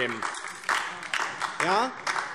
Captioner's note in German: Beifall DIE LINKE